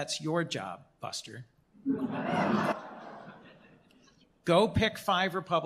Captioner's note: laughter